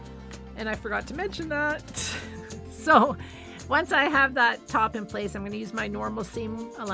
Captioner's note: chuckles